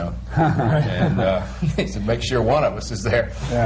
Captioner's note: laughter